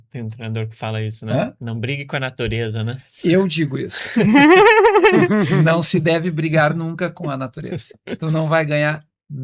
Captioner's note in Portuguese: risadas